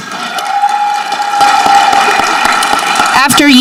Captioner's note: audience clapping